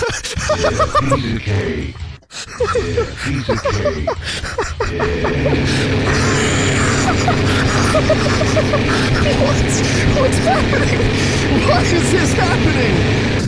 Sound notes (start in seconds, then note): 2.0 laughing; 4.1 still laughing; 6.9 infinite "Yeah, piece of cake"s continue playing on top of each other; 9.7 still laughing